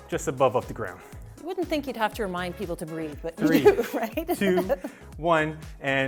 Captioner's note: laughing